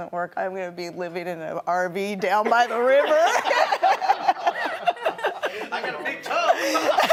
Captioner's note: laughing